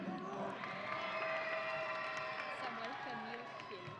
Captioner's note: audience cheering